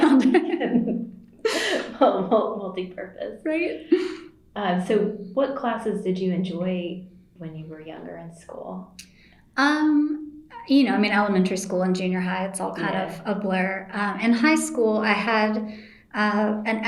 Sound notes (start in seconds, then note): 1.4 laughs